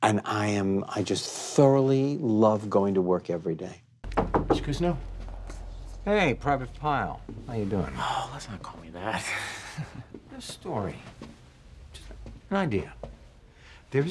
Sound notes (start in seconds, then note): 4.0 knocks on door